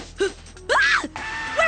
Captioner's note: scream